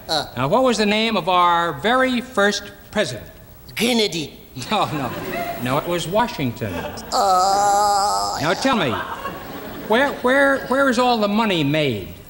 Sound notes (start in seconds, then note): 4.6 audience laughing; 6.9 gigio groaning